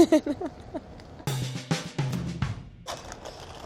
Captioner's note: giggles